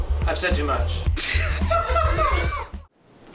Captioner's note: laughter